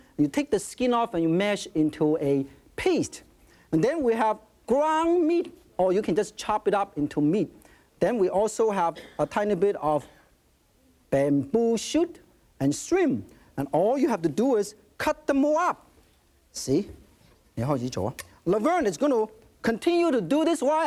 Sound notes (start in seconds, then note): 17.7 speaking in foreign language